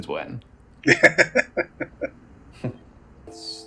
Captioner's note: laughing